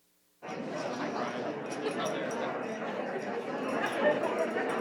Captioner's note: participants chatter